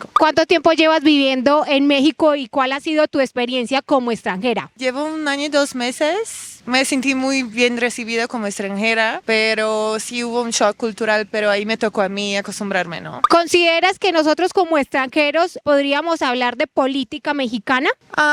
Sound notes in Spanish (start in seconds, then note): none